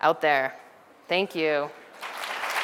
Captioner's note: background audience applause sounds